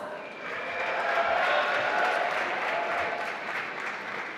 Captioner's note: applause